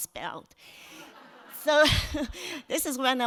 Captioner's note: audience laughs